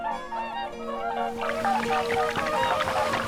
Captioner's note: hooting